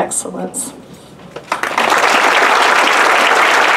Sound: applause

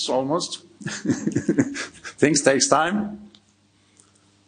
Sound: chuckling

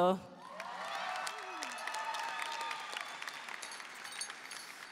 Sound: audience cheering

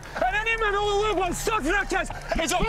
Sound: stewart with scottish accent

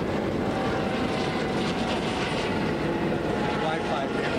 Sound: plane overhead

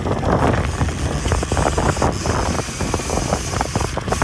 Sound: reels clicking

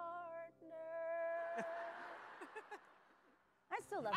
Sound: audience laughs

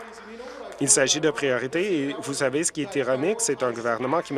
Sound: applause

